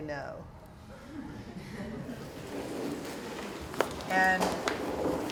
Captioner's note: students laugh